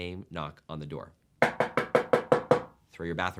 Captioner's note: knocking forcefully